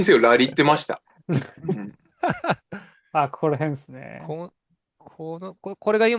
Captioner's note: laughter